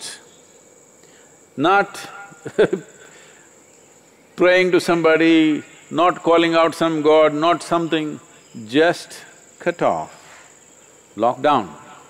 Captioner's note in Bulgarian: смее се